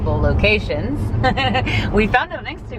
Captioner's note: laughs